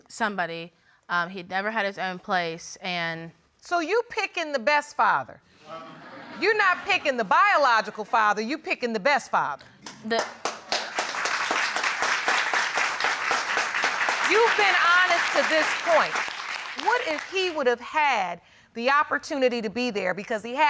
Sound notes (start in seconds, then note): 5.7 audience laughing; 10.8 audience clapping